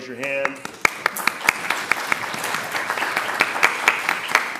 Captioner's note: attendees clapping